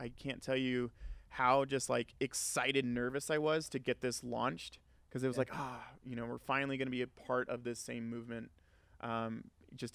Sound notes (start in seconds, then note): 5.3 sighs